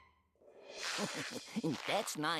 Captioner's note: chuckling